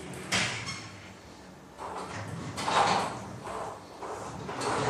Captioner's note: ball ping pong hitting continues